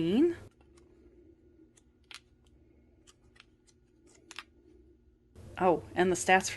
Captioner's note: gentle, Delicate page flips